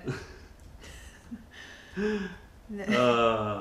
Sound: laughter

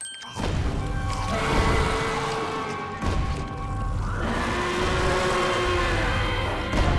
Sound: growling

